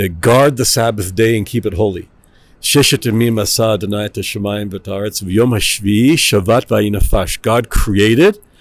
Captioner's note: Hebrew; Hebrew